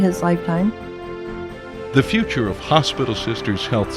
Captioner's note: voiceover